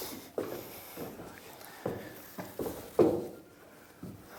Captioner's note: footsteps